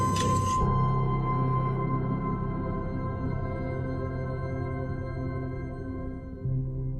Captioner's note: mechanical whir